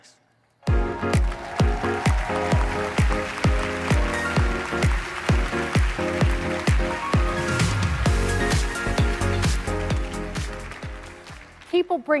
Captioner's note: applause